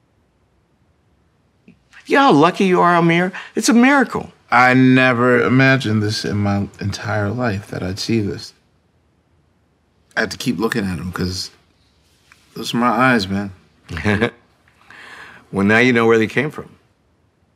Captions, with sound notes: - You know how lucky you are, Ahmir? It's a miracle. - I never imagined this in my entire life that I'd see this. I have to keep looking at him 'cause those are my eyes, man. (Henry chuckles) - Well, now you know where they came from.